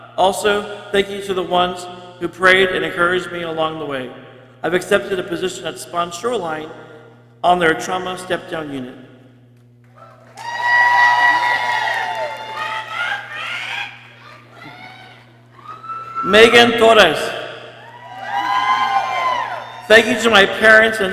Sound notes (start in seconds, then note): 9.9 people cheering and exclaiming; 17.7 people cheering